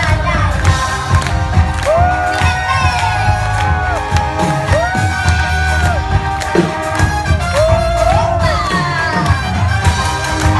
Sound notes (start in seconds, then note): 1.7 audience cheers